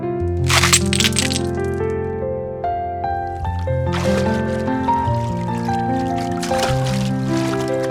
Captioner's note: shivering